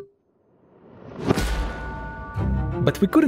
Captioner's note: whoosh; bell chimes